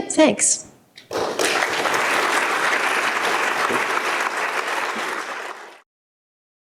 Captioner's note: applause